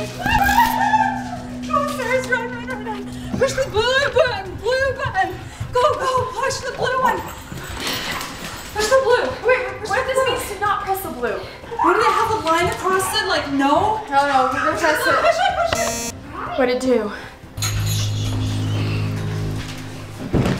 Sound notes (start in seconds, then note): 0.0 dramatic music; 15.7 electronic buzzing; 17.2 tense music